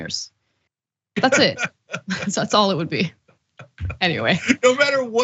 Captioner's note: laugh